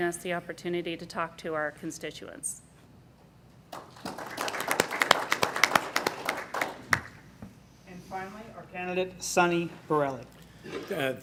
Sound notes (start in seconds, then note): 3.7 applause